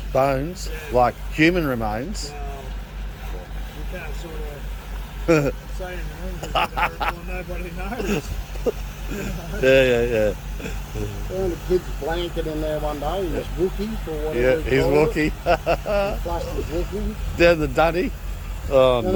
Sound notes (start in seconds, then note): 6.3 laughs; 14.4 laughs